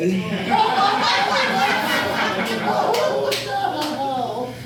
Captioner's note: audience laughing